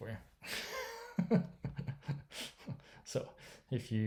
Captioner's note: laughing